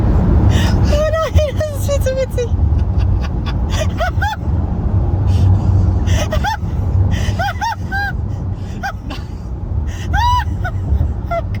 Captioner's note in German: weinen